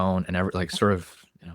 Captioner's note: laughs